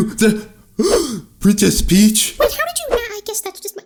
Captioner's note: gasps